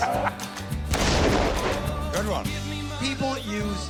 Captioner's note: cannon Fires